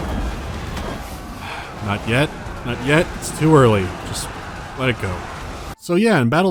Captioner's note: sigh